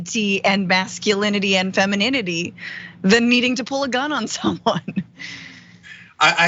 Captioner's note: laugh